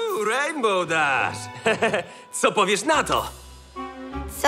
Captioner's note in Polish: śmieje się